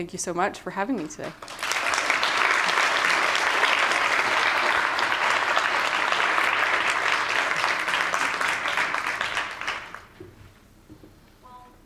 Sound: applause

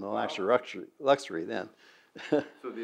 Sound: laughs

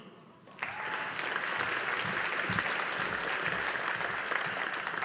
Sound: audience applauding

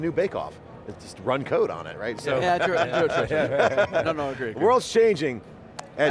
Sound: laughing

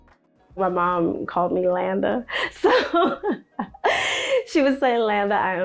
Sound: laughing

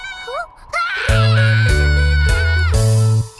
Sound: yelling

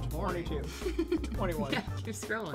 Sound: laughs

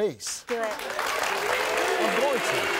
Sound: audience applauding

